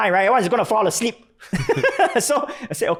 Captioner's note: laughing